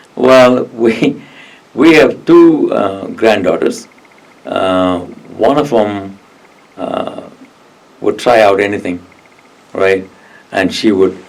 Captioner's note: laughs